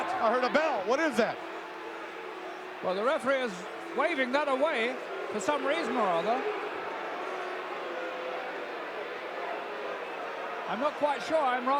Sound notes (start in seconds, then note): 6.3 audience booing